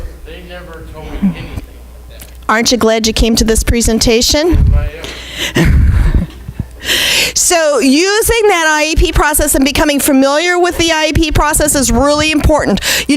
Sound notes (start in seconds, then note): 5.3 laughing